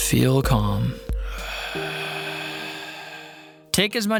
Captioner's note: exhaling